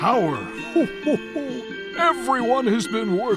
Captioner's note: chuckles